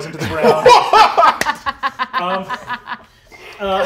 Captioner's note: all laugh